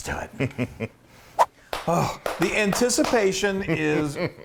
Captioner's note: laugh